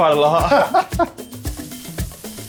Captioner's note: laughing